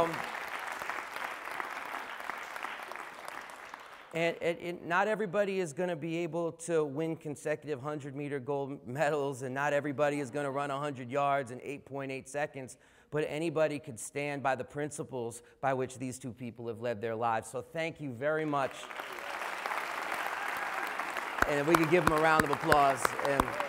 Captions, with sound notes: [ Applause ] And not everybody is going to be able to win consecutive 100 meter gold medals and not everybody is going to run 100 yards in 8.8 seconds, but anybody can stand by the principles by which these two people have lead their lives. So thank you very much [applause]. And if we could give them a round of applause and.